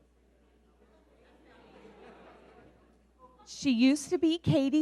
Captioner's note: audience laughing